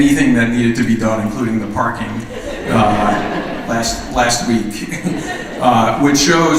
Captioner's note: laughter